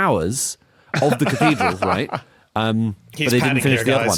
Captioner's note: laughs